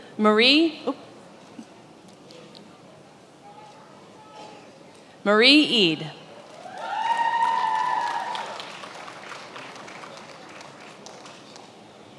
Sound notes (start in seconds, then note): 6.4 attendees applauding and cheering